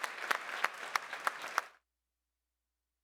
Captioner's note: applause